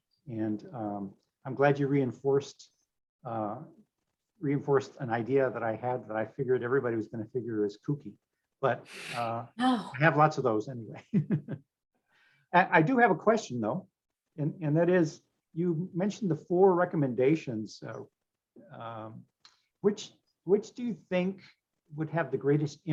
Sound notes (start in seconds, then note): 12.1 laughs